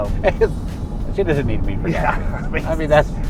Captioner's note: laughing